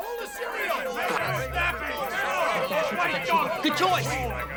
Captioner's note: all shouting at once